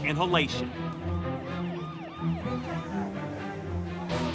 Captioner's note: siren wails